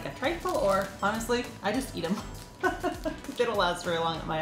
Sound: laughs

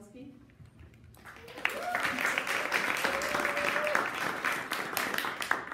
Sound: audience applauding

